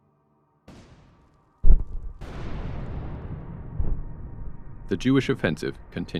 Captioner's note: mortars firing